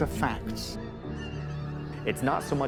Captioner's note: gulls call